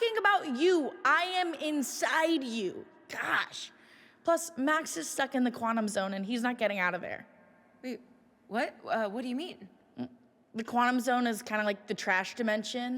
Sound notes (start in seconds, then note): none